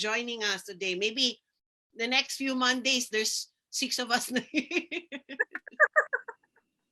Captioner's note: laughing